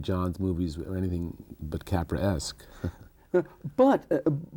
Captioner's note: chuckles